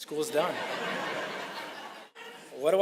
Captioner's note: audience burst in laughter